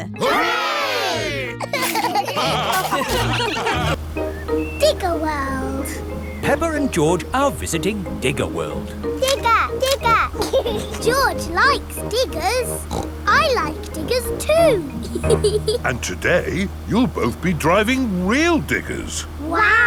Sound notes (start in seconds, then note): 1.6 laughter; 10.7 laughs; 12.7 snorts; 15.3 laughs